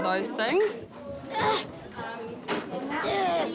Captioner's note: grunts